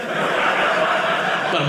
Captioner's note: audience laughing